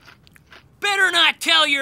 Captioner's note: crunching cereal